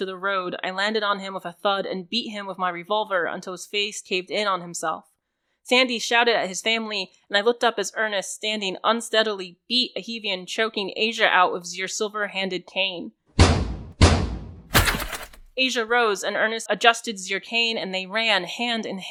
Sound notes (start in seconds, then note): 13.2 more metal breaking bones